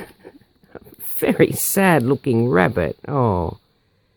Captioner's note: laugh